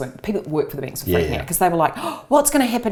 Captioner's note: gasps